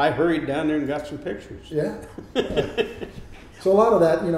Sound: laughs

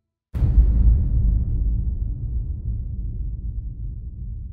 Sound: dramatic boom

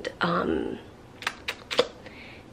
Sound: clicks tongue

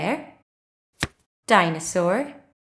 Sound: the sound of a card being turned over can be heard

